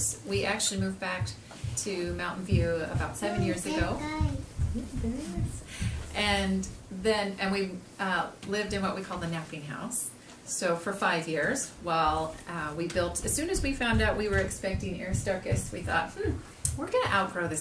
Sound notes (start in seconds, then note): 4.8 child murmuring; 6.0 whispering